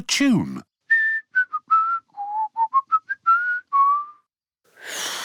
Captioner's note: whistles a tune; failed whistle